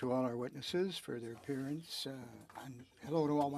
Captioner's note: speaking French